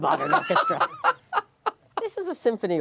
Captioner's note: laughing